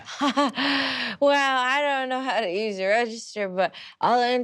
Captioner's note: giggles